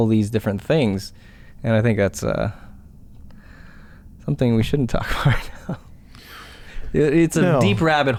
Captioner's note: chuckles